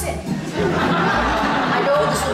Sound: audience laughs

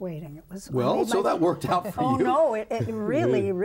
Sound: laughs

